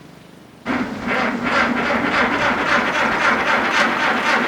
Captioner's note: tractor engine sputtering